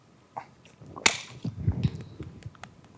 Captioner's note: bottle lid clicking